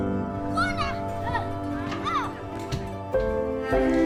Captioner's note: kids yelling